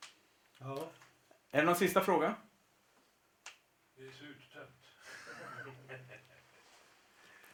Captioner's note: laughter